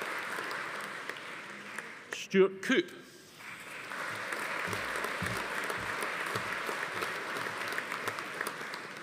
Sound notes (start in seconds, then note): 3.4 audience applauding